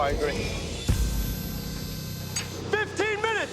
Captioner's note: machinery whirring